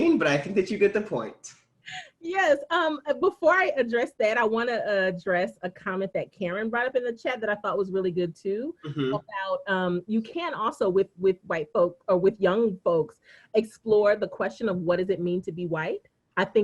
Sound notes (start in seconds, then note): 2.8 laughing